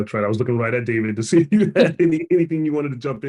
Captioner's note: laughs